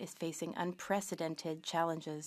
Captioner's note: speaking French